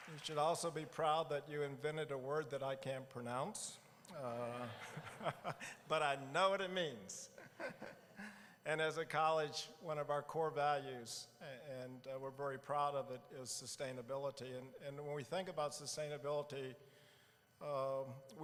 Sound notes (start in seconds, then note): 4.2 laughing; 4.3 audience laughing